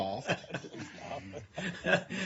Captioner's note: laughter